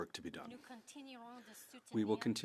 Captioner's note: speaking French